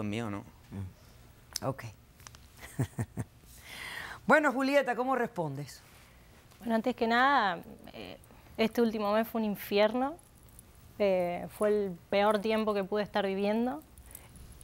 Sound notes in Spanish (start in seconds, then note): 2.6 Risas